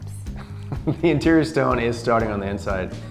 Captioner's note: chuckles